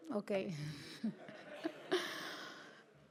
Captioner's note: laughter